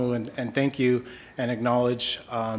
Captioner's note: speaking Indigenous language